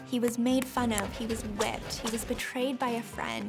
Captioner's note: whip lashing